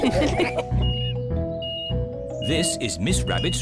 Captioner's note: all laugh; crane beeping